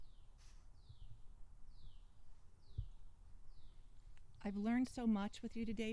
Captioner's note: bird sounds